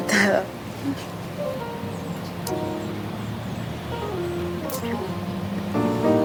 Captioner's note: laughing; kissing; soft Music Playing